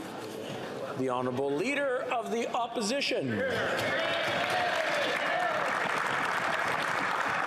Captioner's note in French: voix de l'interprète